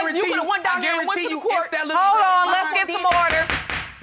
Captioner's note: gavel banging